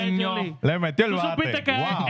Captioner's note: speaking In Foreign Language